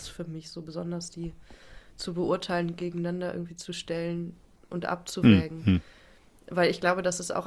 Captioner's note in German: räuspern